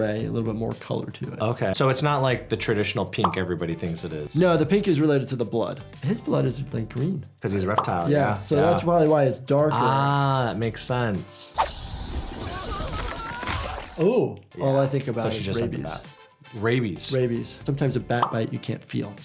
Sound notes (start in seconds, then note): 11.9 wings flapping; 12.3 character screams